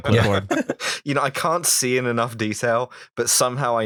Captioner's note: laughter